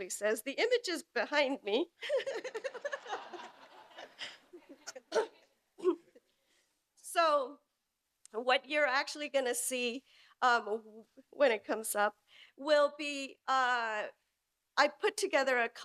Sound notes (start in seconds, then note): 5.5 laughs